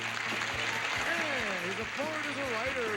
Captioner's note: audience applauding